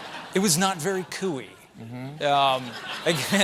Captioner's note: laughter